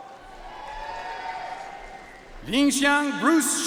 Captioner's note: audience cheering and applauding